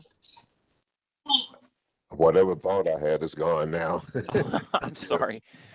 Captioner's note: laughter